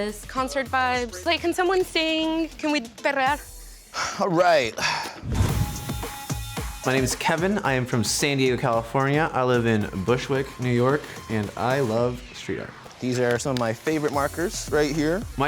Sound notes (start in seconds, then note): 2.9 speaks in foreign language; 5.4 upbeat music